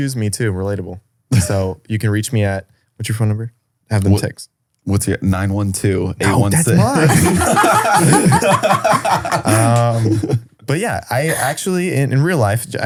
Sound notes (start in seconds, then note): 6.2 all laughing